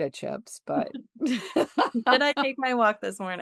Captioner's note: laughter